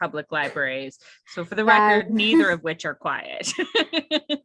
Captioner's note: laughs